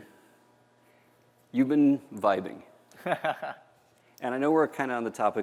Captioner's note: laughter